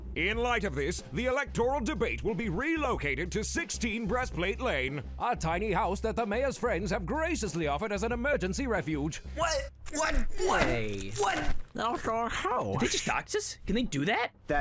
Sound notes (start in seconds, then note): 9.9 unwrapping and eating; 12.0 mouth full